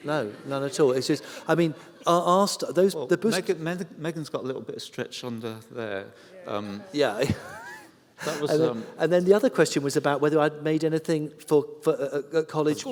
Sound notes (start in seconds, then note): 0.2 laughter